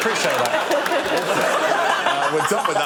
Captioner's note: laughter